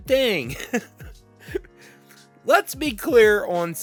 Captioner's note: laughs